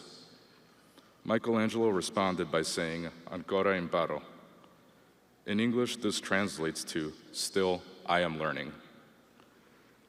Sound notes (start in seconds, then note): 7.0 speaking foreign language